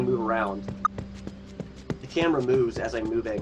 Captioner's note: footsteps thudding